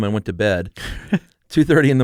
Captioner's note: laughs